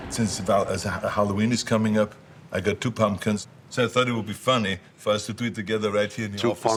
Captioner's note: none